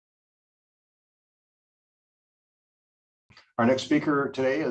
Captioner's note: silence